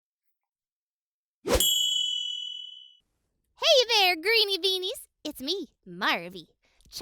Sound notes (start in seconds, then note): 0.0 short whoosh; 1.6 bell chime